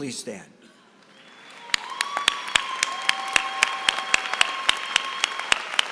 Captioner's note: applause